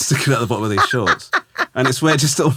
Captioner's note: laughing